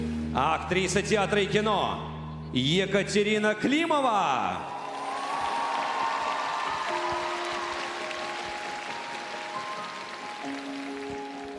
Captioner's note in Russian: аплодисменты; ликование